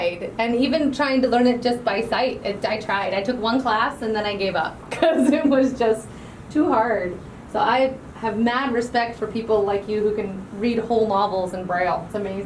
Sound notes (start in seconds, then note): 5.0 laughing